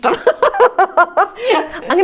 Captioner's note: laughs